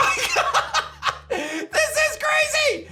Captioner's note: laughs